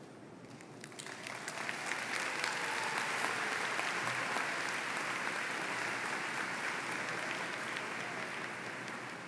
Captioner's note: applause